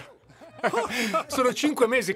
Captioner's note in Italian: Risata